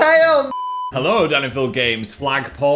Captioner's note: television static